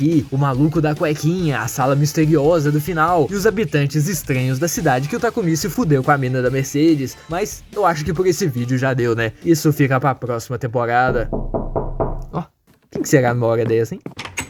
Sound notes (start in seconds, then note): 11.1 knock knock